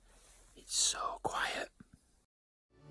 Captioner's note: whispered